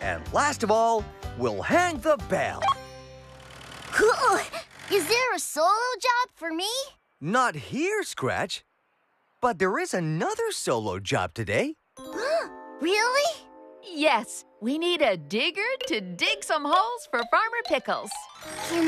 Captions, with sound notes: AND LAST OF ALL, WE'LL HANG THE BELL! ( Beep ) COOL! IS THERE A SOLO JOB FOR ME? NOT HERE, SCRATCH. BUT THERE IS ANOTHER SOLO JOB TODAY! ( Gasps ) REALLY?! YES! WE NEED A DIGGER TO DIG SOME HOLES FOR FARMER PICKLES!